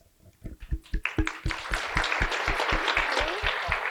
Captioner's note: applause